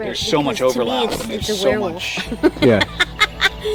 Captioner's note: laughs